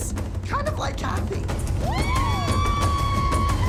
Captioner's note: cheering